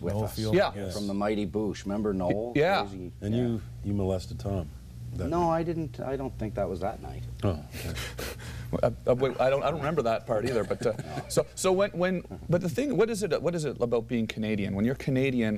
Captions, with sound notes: US. YEAH. FROM THE MIGHTY BOOSH. REMEMBER NOEL? AND YOU MOLESTED TOM. NO I DIDN'T, I DON'T THINK THAT WAS THAT NIGHT. OH. [ LAUGHTER ] WAIT, I DON'T REMEMBER THAT PART EITHER BUT UH. BUT THE THING...WHAT IS IT ABOUT BEING CANADIAN? WHEN YOU'RE CANADIAN